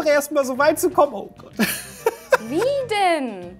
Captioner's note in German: Er lacht